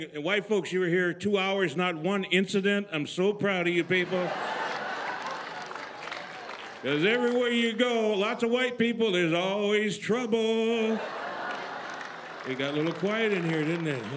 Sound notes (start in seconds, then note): 3.8 laughter; 5.9 applause; 10.7 laughter